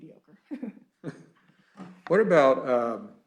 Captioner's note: chuckling